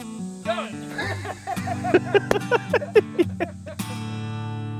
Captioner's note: laughter